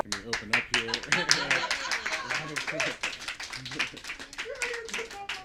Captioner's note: background clapping and laughter